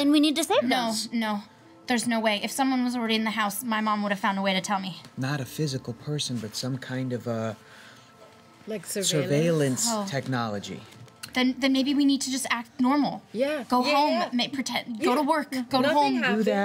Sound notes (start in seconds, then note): none